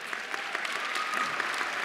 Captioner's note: cheers and applause